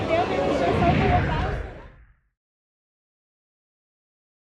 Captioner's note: graphics swooshing